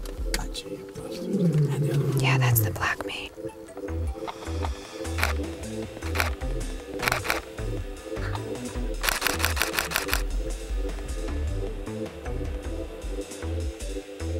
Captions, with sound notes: Gotcha, ya bastard! Yeah, that's the black mane. (camera clicks) (camera clicks) (camera clicks)